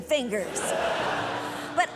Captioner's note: audience laughs